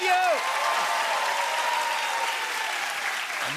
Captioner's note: cheers and applause